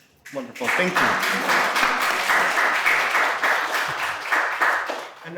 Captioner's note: audience applauding